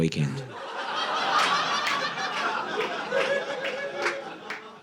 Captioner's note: audience laughing